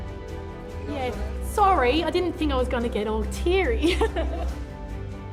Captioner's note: chuckling